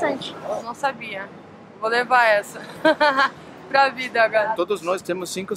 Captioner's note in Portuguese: risos